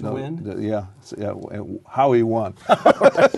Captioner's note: laughter